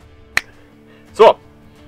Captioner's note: snap